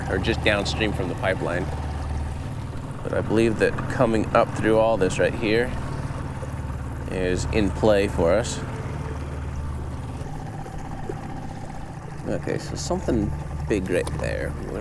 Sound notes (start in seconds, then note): 10.2 engine chugging; 10.2 water sloshing